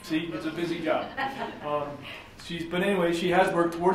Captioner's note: laughing